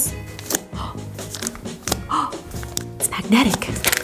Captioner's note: gasps